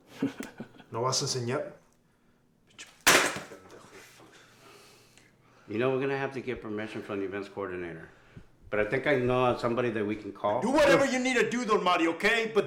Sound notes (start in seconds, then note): 0.3 Phone clicks and Dark Shadow laughs; 1.0 Spanish; 3.0 phone crashes